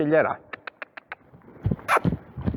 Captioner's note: cluck